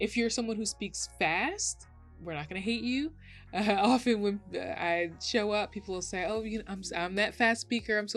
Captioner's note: chuckles